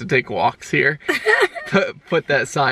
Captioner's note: laughs